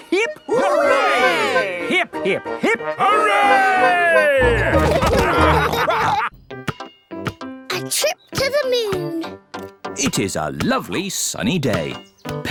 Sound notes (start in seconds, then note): 4.4 all laughing